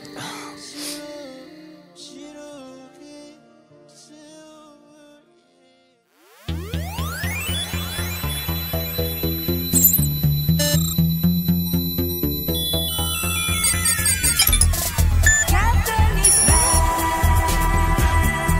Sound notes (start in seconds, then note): 0.1 sobbing; 2.5 singer vocalizing; 6.6 upbeat electronic music; 10.0 electronic beeping